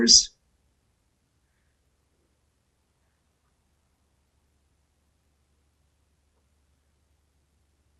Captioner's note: pauses 13 seconds